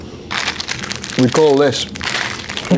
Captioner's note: plastic wrapping rustles